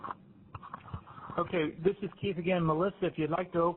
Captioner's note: voiceover